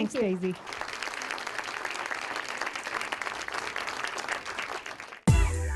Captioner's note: applause